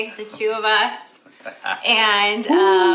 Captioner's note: laughter